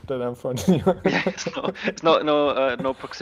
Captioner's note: chuckling